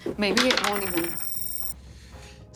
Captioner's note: whispers; dice rolling; computer beeps